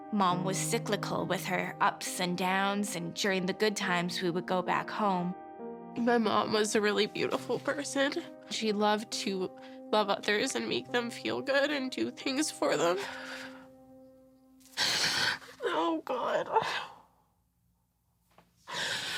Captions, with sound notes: Mom was cyclical with her ups and downs. And during the good times, we would go back home. My mom was a really beautiful person. She loved to love others, and make them feel good, and do things for them. [SOBBING] Oh god.